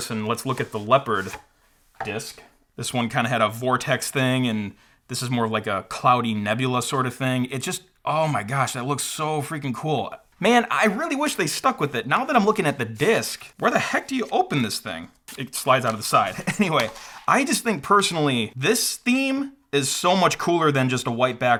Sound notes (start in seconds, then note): 16.3 chuckles